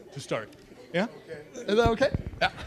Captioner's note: laughing